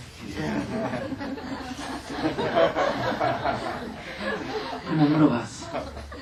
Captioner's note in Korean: 청중 웃음